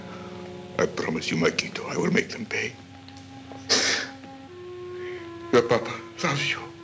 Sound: sobs

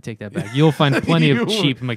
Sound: laughter

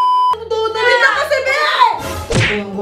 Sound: shouts

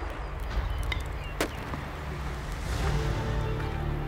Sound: water rushing; fire crackling

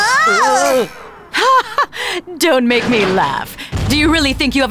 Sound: laughs

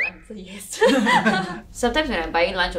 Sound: laughs

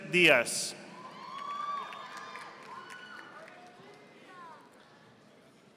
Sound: audience applauding

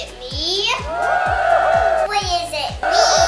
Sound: cheering

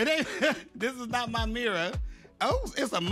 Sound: laughs

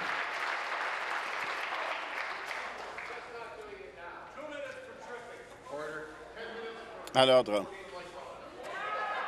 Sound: applause

